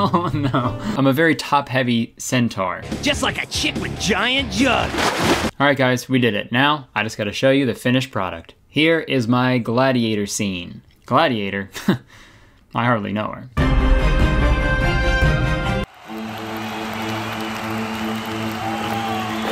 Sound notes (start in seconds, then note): 4.7 water splashing; 12.1 chuckles; 15.8 audience applauding